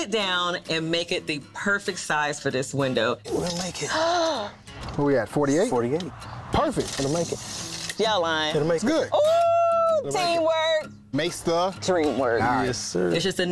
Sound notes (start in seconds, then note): 3.9 gasps